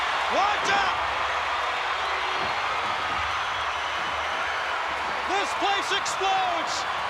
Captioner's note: applause